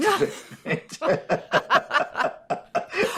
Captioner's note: laughter